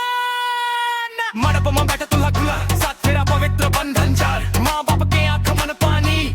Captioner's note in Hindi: चीखने की आवाज़